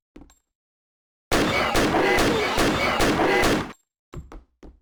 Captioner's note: really annoying alien pain sounds